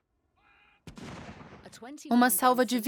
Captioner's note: cannons booming